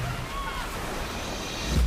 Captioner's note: cheering